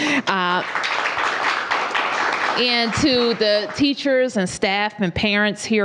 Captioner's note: applause